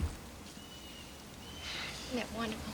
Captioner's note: object clattering